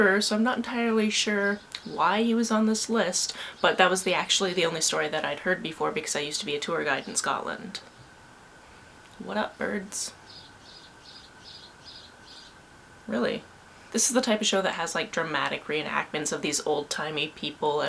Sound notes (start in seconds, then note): 9.2 birds chirping; 10.2 chirp chirp chirp